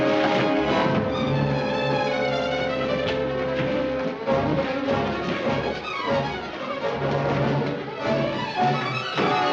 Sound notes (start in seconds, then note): 4.0 scuffling